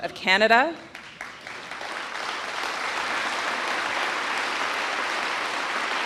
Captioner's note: audience applauding